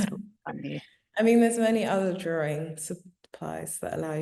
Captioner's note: chuckling